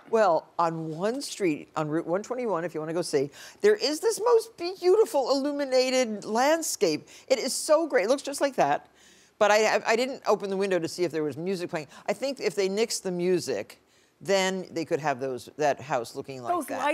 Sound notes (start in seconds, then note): none